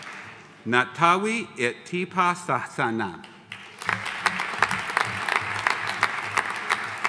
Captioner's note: audience applauding